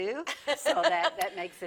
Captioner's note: laughs